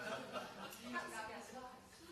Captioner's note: laughter